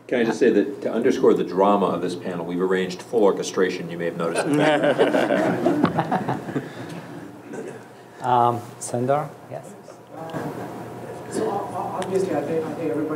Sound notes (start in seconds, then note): 4.3 audience laughs